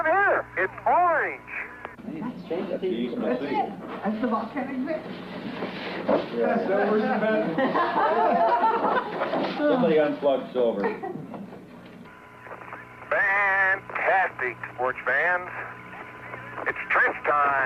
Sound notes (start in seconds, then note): 8.2 indistinct chatter; 9.1 laughter